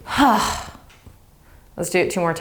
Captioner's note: sighs